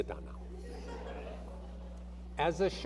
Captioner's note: audience laughing